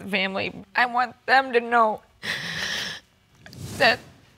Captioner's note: sniffles